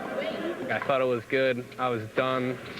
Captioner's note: laughing